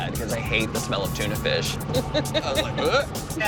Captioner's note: laughs